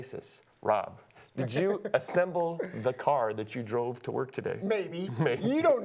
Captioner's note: laughter; laughter